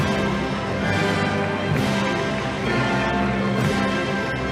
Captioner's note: audience applauding